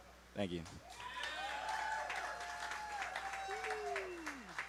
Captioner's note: audience cheers and applauds